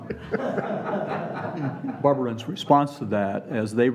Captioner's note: laughing